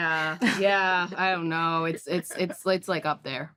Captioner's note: laughs